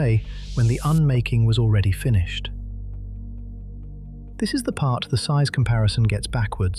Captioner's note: sfx:riser-soft